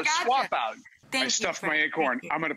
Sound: laughing

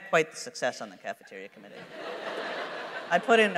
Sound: laughter

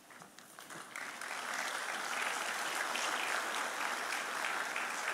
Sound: audience applauding

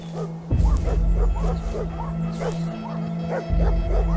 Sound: barking intensifies

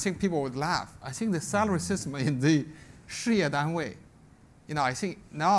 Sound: speaks Chinese

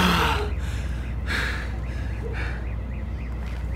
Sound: distant alarm continues

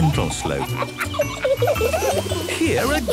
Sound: kids laughing

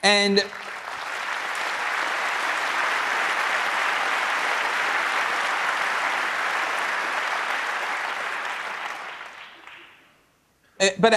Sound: applause

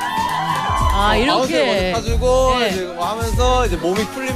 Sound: clap

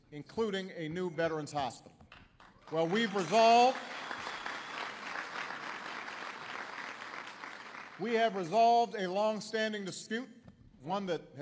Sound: applause

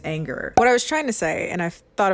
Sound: popping sound effect

